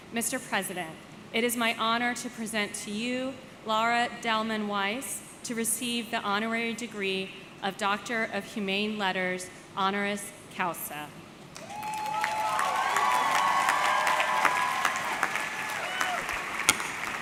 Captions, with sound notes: Mr. President, it is my honor to present to you Lara Dallman-Weiss to receive the honorary degree of Doctor of Humane Letters Honoris Causa. (audience cheering) (audience clapping)